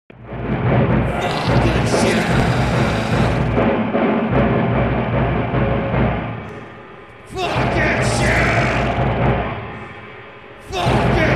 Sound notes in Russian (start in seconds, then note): 5.5 гроул; 7.3 скрим